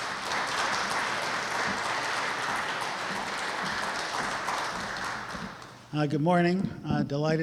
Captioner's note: applause